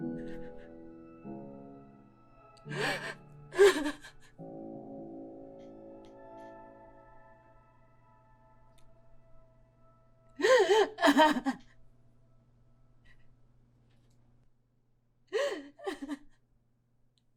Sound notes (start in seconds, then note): 0.7 Sarah sobbing